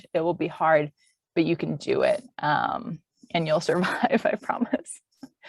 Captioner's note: chuckles